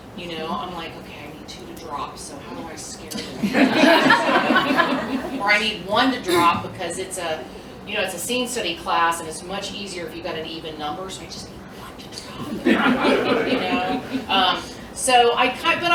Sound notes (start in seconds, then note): 3.1 laughter; 11.2 whispers; 12.4 laughter